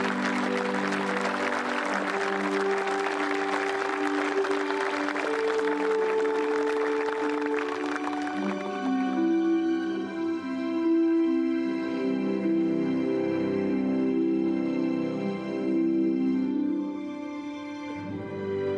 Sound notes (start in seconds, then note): 3.2 speaking global language; 9.9 applause; 9.9 speaking global language